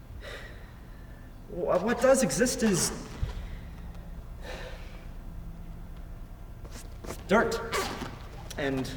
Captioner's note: sighs